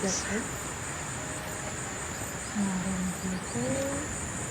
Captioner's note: calm nature sounds